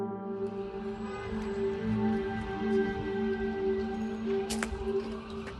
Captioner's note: sirens wailing